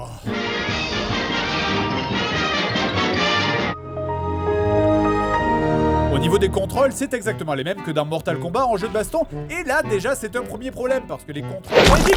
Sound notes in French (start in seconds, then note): 3.7 Son de démarrage Windows